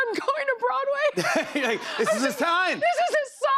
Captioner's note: laughter